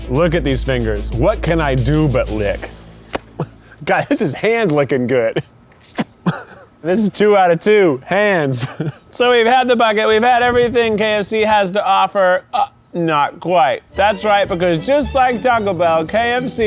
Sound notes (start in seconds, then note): 3.3 lips smacknig